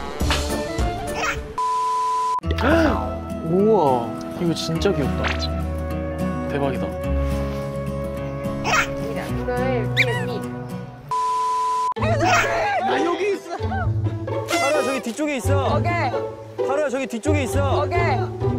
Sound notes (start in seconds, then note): 12.0 laughing